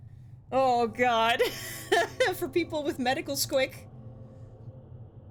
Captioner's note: laughs